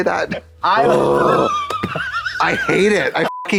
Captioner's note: guffawing; Trixie grumbling; beep